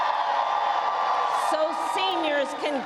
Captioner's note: cheering